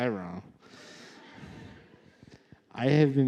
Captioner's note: laughter